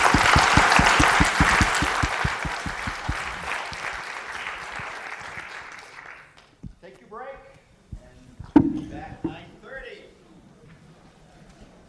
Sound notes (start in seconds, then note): 0.0 applause